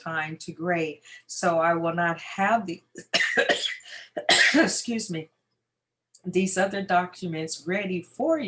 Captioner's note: cough